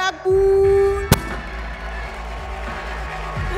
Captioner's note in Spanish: Aplausos